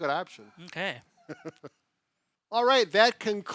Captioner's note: laughing